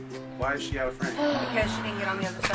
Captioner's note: big sigh